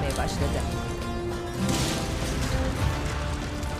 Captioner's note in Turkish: Patlama sesi